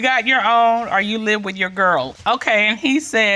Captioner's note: judge dana reading